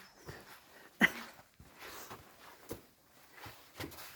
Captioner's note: laughs